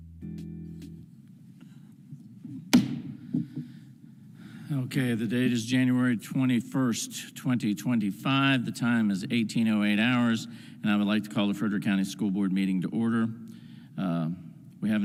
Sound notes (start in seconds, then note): 2.7 gavel bangs